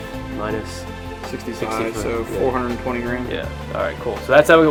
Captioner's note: voiceover